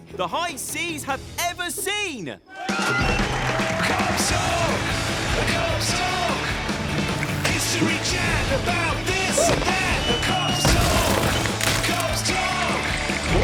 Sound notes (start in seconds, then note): 2.4 cheering